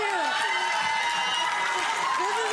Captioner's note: audience cheers